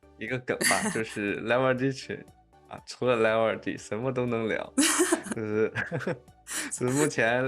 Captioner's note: laughs